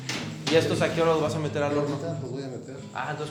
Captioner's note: speaks foreign language